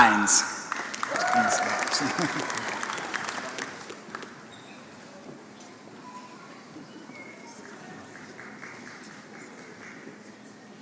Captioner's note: applause